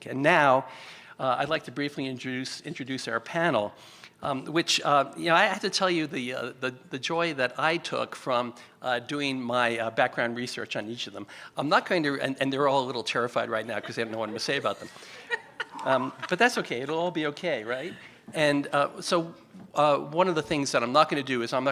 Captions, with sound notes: And now, I'd like to briefly introduce our panel, which, you know, I have to tell you the joy that I took from doing my background research on each of them. I'm not going to- [STUTTERS] and they're all a little terrified right now because they have no other say about them. [PANELIST LAUGHS] But that's OK, it'll all be OK, right? And so, one of the things that I'm not going to do is